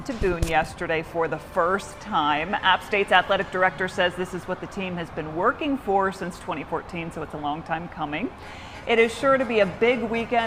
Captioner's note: horn honking